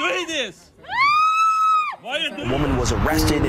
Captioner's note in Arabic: يصرخ